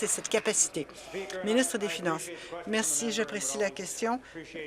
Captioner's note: applause